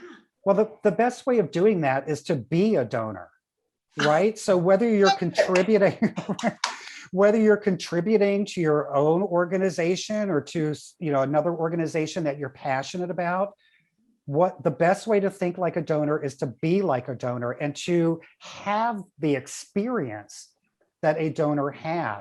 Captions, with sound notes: well, the best way of doing that is to be a donor, right? So whether you're contributing... (chuckles) Whether you're contributing to your own organization or to another organization that you're passionate about, the best way to think like a donor is to be like a donor and to have the experience that a donor has,